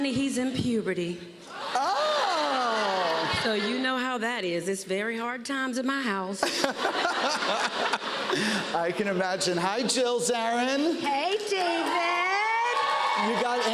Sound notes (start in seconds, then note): 1.6 laughter; 6.4 laughter; 11.4 cheers and applause